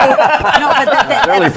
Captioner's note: laughter